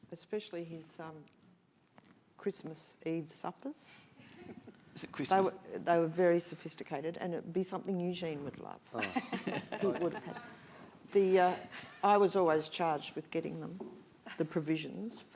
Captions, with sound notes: - Especially his Christmas Eve suppers. They were very sophisticated, and it'd be something Eugene would love. (all laughing) I was always charged with getting them the provisions